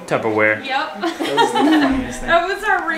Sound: laughing

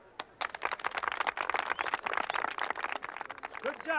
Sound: crowd clapping

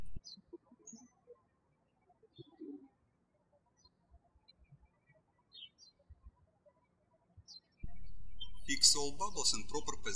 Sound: birds chirping

